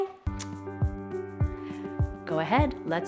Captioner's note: gentle music; lips smacking